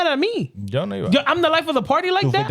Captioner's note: speaking In Foreign Language